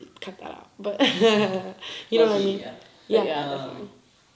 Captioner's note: laughs